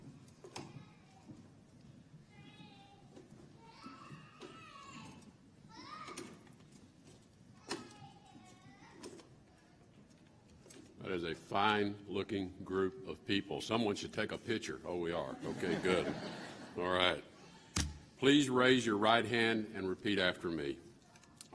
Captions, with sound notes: That is a fine-looking group of people. Someone should take a picture. Oh, we are. (Laughter.) Okay, good, all right. Please raise your right hand and repeat after me.